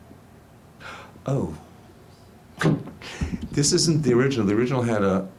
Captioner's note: clunk